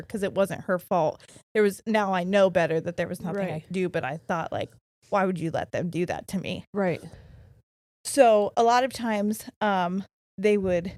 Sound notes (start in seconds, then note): none